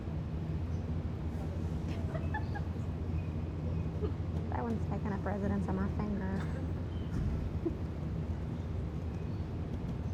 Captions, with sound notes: (laughing) - That one's taken up residence on my finger. (giggles)